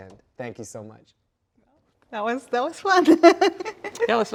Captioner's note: laughs